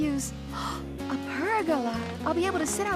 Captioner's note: gasps